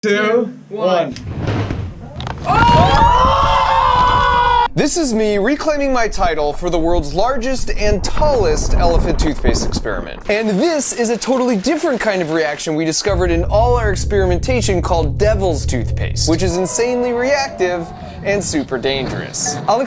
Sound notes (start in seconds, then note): 2.0 structure explodes; 2.4 people shouting